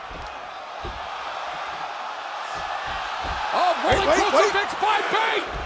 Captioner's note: crowd cheering